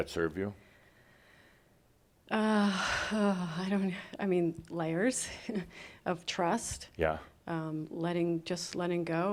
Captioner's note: she sighs